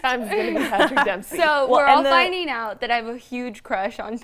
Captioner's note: laughter